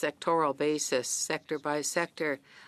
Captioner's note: speaking in French